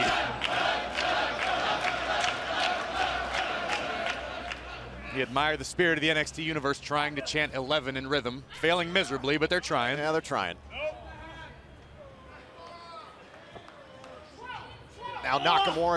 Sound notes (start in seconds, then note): 2.3 fans chanting